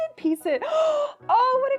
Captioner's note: inhaling sharply